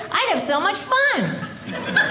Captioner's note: audience laughing